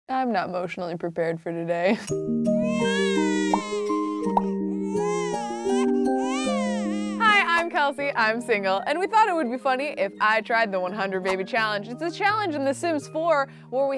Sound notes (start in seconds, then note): 2.2 gentle music; 2.6 baby crying